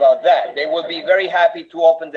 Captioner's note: laughter from audience